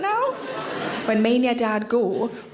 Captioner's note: audience laughing